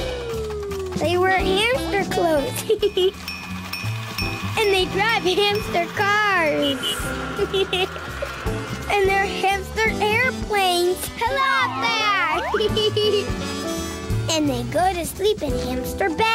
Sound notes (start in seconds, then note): 2.6 laughs; 7.3 laughs; 11.2 laughs